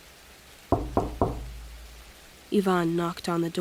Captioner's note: knocks on door